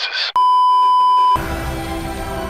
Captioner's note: beeeeeep